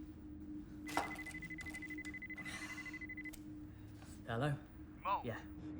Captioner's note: cell phone ringing